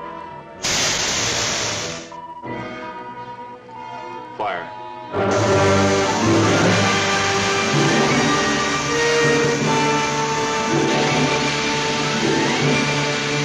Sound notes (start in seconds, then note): 0.6 rockets hissing; 5.0 dramatic music